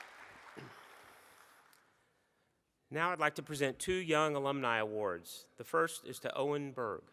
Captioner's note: applause